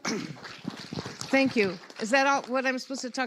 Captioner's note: audience applauds